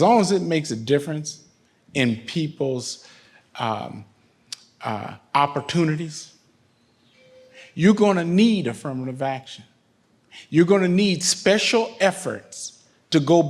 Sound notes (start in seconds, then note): none